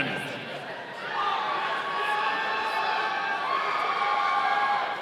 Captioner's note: audience cheering